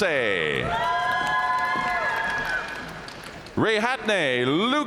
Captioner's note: audience cheering and applauding